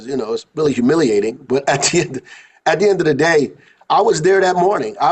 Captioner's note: laughing